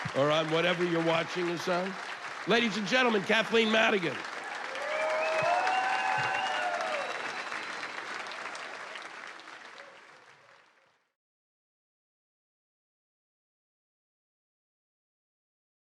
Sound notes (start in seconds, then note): 4.9 applause and cheers; 7.4 whistles